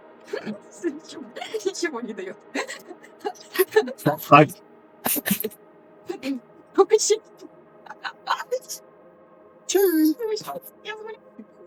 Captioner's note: laugh